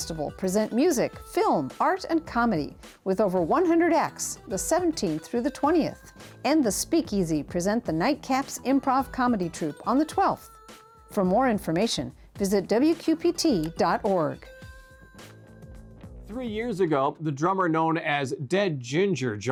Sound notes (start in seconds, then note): 13.6 button clicking